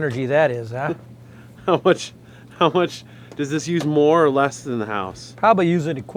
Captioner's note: laughs